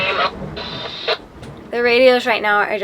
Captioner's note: static